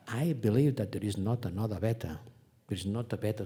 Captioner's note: none